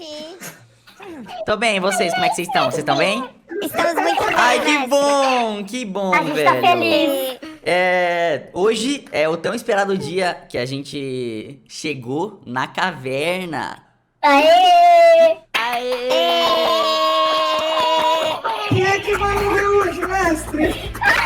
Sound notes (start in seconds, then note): 14.7 clapping and celebrating